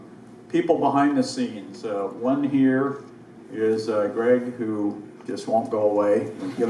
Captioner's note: audience laughs